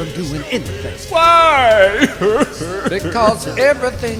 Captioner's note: sobbing